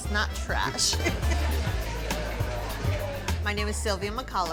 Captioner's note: laughing